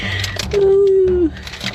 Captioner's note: sob